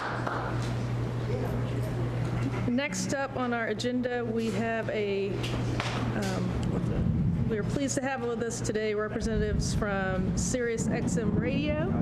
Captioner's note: applause